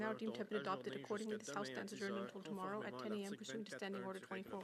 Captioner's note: speaking French